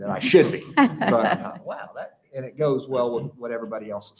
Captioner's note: laughter